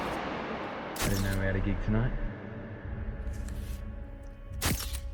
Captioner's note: echo; camera snaps